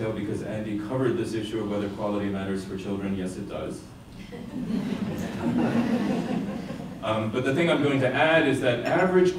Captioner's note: laughter